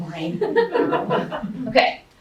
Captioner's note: laughter